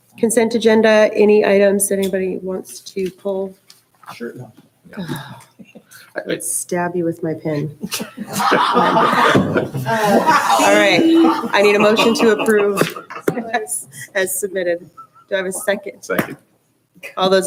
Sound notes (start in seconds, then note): 6.5 sighs; 7.6 laughing; 13.3 chuckles